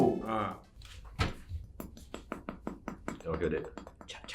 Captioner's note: tapping sounds